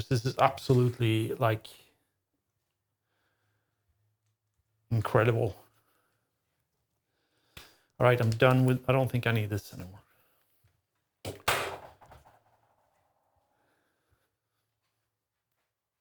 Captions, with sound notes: This is absolutely like incredible. All right, I'm done with, I don't think I need this anymore. (Clattering)